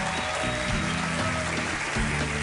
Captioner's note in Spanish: Aplausos